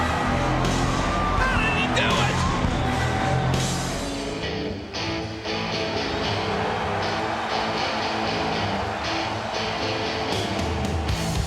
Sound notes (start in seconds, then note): 4.4 crowd cheering; 4.4 upbeat music